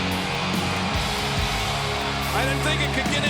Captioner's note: audience cheers